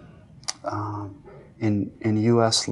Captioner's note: clicks tongue